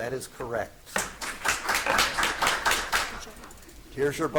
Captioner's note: audience applauding